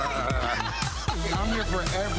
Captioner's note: laughing